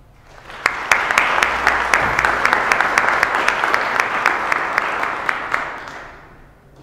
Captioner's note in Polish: oklaski